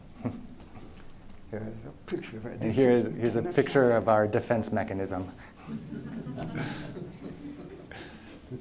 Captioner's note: laughter